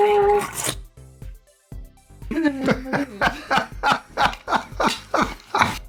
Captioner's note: laughing